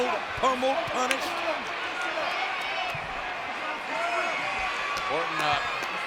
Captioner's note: crowd cheering; hands clapping